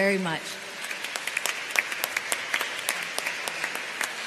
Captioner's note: applause